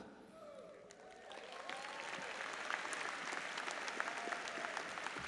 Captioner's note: audience applauds